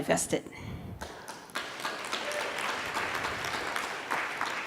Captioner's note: applause